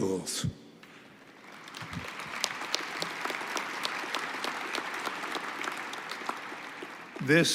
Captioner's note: applause